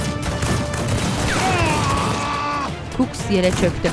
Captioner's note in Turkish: Silah sesleri; İnleme sesi